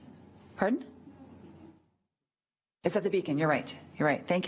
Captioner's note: woman speaking away from mic